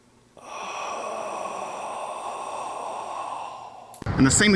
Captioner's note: exhales